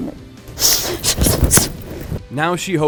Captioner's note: breathing sharply